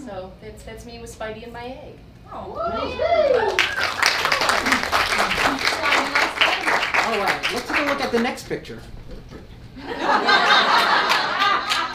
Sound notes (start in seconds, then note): 2.5 audience cheers; 9.7 audience laughs